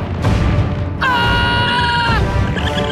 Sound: screaming

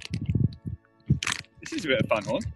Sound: rustles crisp packet

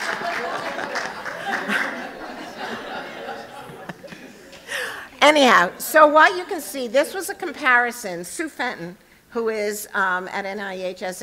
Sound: laughter

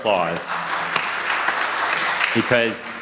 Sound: audience applauds

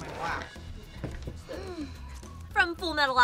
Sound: gasps

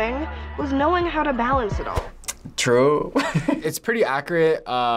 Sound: chuckles

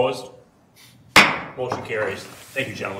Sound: gavel clunking

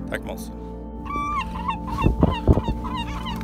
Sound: hungry birds

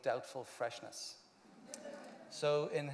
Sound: laughter

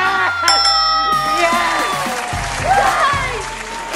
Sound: bell dings

